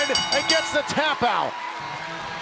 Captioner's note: bell ringing